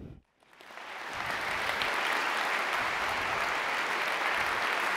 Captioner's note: audience applauding